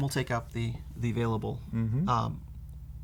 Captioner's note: none